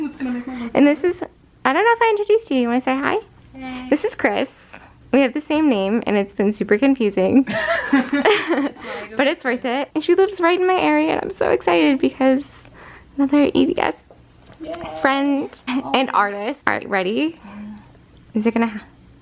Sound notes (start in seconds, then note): 7.4 laughter